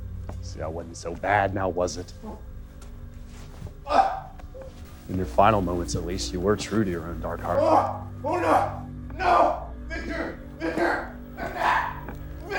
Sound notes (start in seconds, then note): 3.8 Niall grunting